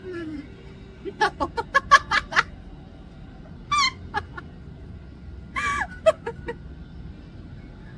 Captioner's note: laughs